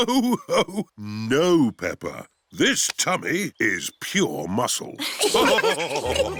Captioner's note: laughs; all laughing